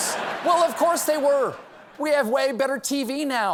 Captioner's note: laughter